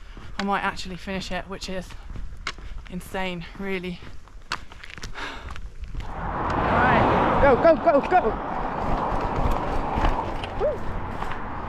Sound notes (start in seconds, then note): 6.0 car